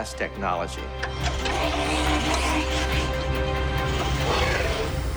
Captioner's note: robotic whirring